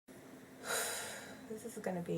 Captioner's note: takes deep breath